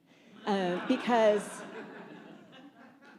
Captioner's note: laughter